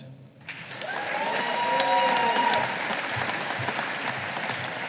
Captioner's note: audience applauding